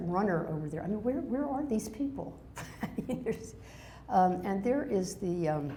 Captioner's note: laughs